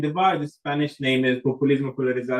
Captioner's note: spanish